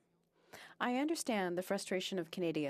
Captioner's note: speaking French